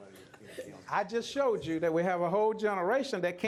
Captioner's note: laughter